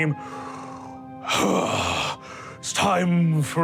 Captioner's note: inhales